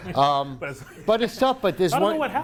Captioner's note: laughing